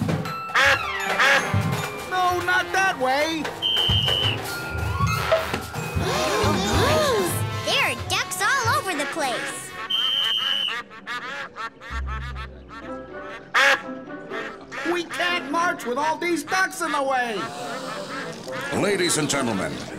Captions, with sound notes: [quacking] No, not that way! [gasping] There are ducks all over the place! We can't march with all these ducks in the way! [gasping] Ladies and gentlemen,